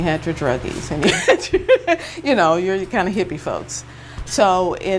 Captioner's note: chuckles